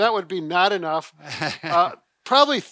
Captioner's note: laughing